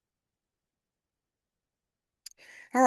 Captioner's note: pause